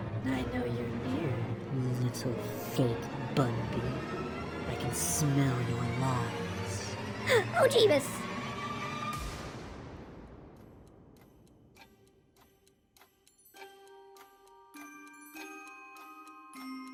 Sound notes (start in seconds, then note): 7.2 gasp; 9.2 dramatic sound thing